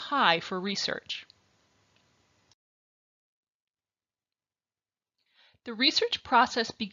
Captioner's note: silence